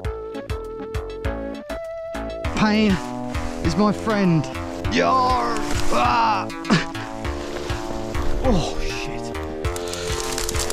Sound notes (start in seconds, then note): 5.9 age of empires villagers dying sound